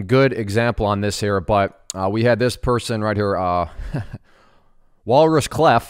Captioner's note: chuckles